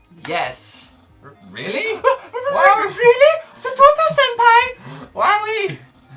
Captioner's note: high anime voice; laughing